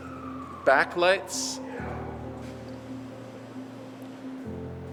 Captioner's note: siren blasting faintly